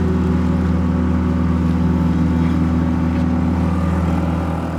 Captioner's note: boat engine humming